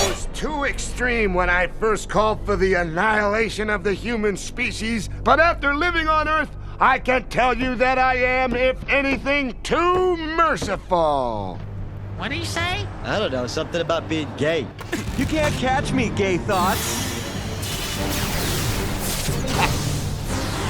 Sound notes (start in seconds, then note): 17.8 arrow whizzing through the air